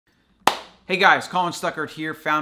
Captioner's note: clapping